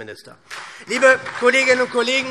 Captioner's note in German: Beifall SPD